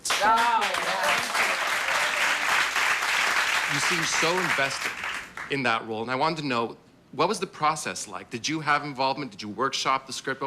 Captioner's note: applause